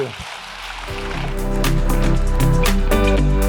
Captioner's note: audience applauding; upbeat music